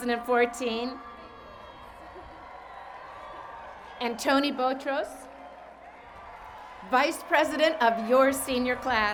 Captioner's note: cheers and Applause